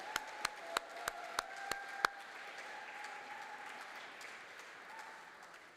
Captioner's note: applause